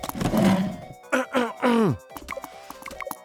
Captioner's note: clears throat